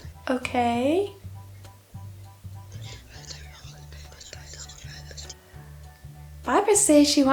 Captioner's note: more whispering